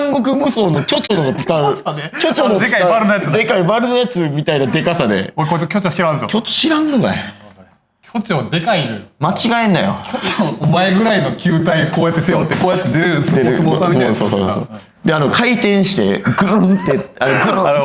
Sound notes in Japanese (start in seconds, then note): 0.6 笑い; 10.1 咳払い; 16.1 笑い